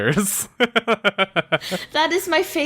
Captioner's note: laughs